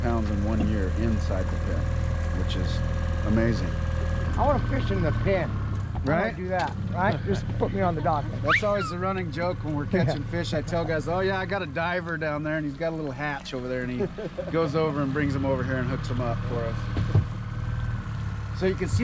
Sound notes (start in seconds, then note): 7.1 chuckling; 8.4 whistling; 13.6 chuckling